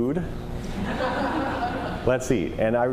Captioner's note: laughter